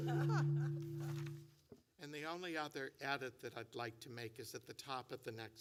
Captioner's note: laughter